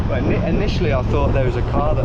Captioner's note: none